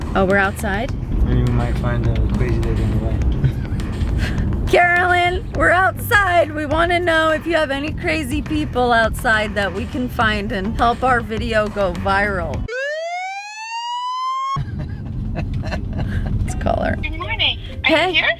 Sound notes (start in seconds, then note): 3.4 laughs; 12.6 police sirens; 14.5 laughing